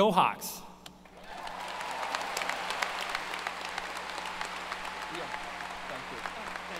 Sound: applause

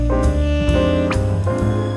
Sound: blinking noise

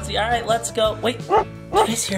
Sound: puppy barking

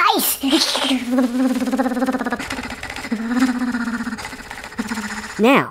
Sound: shivering

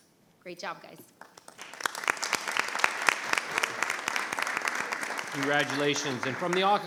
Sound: board and audience applauding

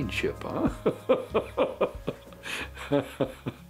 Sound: laughs

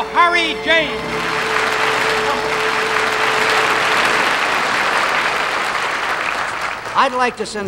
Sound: audience applauding

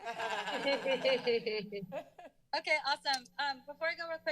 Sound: laughter

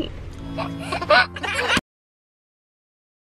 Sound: laughing

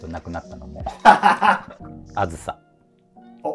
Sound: laughing

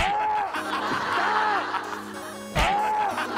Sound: groaning

